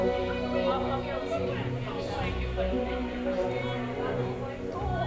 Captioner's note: group chattering